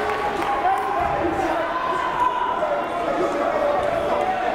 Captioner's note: crowd murmuring